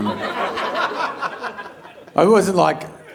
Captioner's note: audience laughing